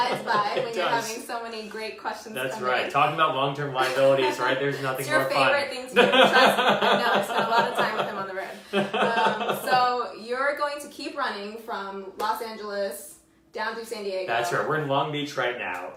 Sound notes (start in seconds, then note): 0.0 laughs; 5.9 laughs